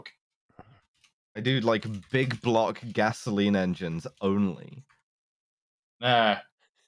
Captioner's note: keyboard tapping